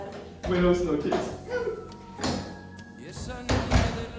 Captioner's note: sobs